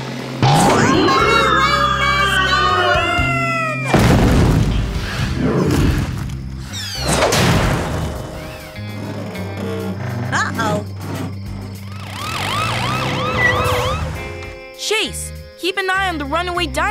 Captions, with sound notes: Somebody rein this guy in! [thudding] [thudding] Uh-oh. [sirens blaring] Chase, keep an eye on the runaway dinosaur